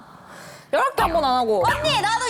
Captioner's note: inhales